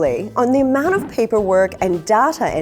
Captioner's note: air whooshes